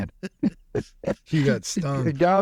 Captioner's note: laughing